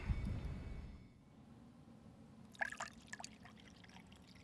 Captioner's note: none